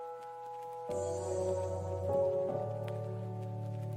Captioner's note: speaks in foreign language